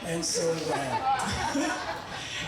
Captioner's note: audience laughing